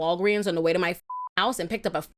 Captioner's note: beep